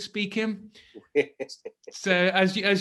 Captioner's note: laughs